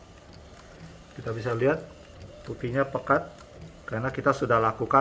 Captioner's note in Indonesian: suara mesin printer